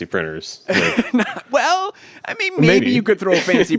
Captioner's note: laughs